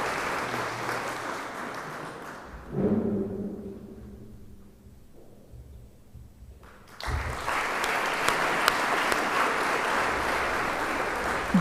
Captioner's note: applause